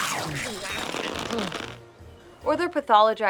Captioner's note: fart noises